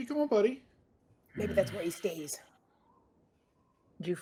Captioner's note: grunts